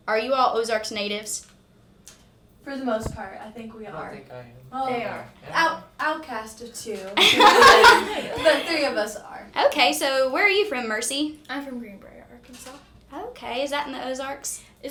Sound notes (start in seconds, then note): 7.2 group laughing